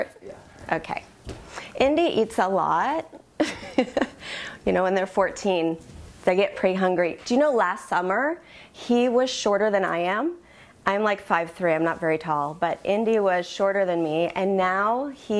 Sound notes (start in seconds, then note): 3.4 giggles